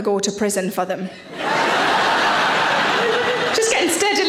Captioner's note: audience laughing